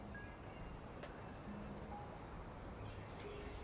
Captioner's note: birds singing